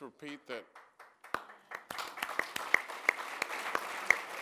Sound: applause

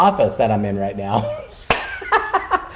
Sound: laughing

